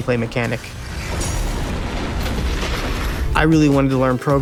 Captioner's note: video game explosions